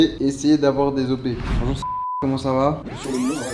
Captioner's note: beep